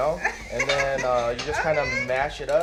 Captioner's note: chuckles